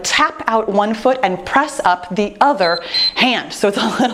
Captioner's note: timer beeps